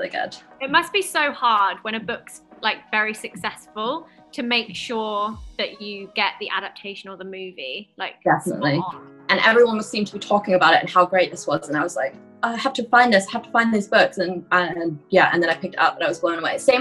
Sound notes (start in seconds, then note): none